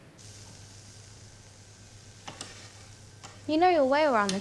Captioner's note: food sizzling